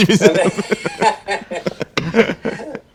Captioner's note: laughter